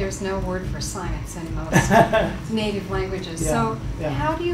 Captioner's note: laughs